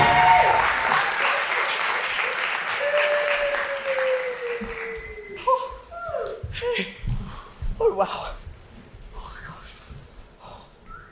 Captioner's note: audience cheers